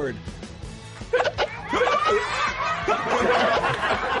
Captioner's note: hiccuping